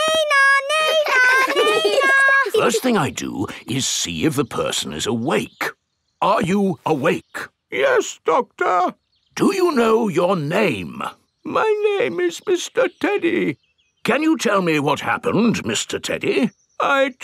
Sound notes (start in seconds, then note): 8.0 in teddy's voice; 9.8 in normal voice; 11.9 in teddy's voice; 14.4 in normal voice